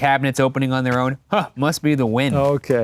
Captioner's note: scoffs